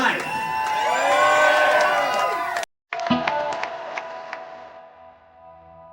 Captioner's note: crowd cheers